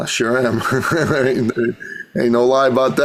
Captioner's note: laughs